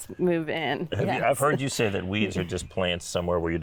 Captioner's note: laughing